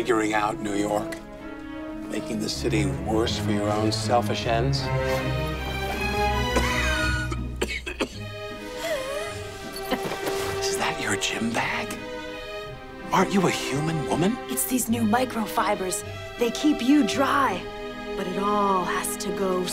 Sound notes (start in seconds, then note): 6.4 coughing; 8.6 laughs